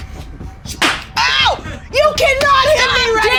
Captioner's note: loud thwack